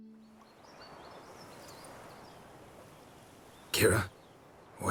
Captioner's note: birds chirping